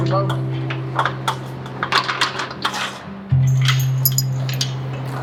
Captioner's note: gate rattles